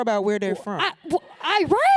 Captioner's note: laughter